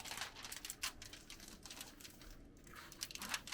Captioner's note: paper rustling